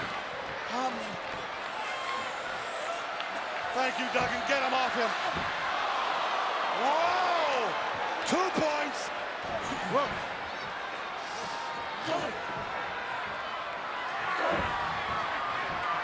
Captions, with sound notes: Thank you, Duggan. Get him off him. (crowd gasps) Whoa! Two points. Whoa. (crowd jeers)